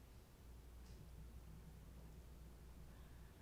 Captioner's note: none